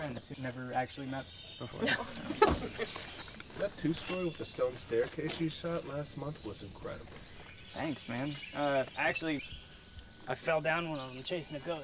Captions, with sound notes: who've never actually met before. [laughter] -That two-story with the stone staircase you shot last month was incredible. -Thanks man! Uh-actually... I fell down one of 'em chasing a ghost,